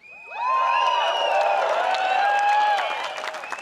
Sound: crowd cheers

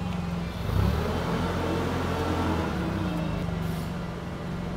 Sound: beeping; motor humming

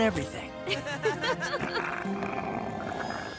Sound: laughing; Riyu growls

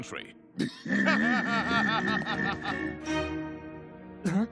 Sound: all chuckling

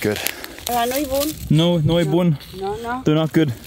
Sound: speaking Romanian

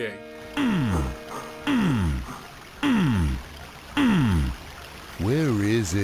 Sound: badly re-enacted grunting sounds

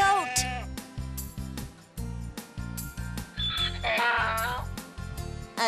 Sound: donkey makes sound

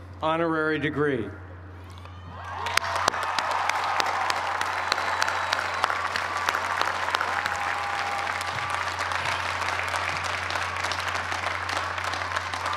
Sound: cheers and applause

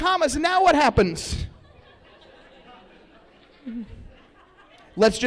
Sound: laughter

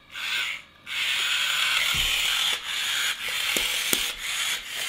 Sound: loud whirring

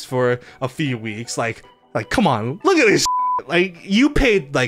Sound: beep

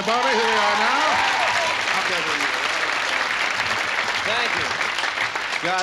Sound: audience applauds

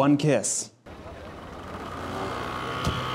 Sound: engine humming; scooter engine revving

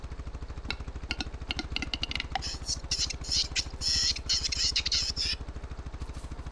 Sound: ring-necked pheasant noises

